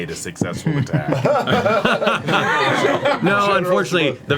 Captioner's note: all laugh